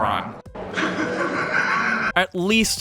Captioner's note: David Lynch laughs